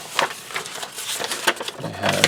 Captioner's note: paper crinkles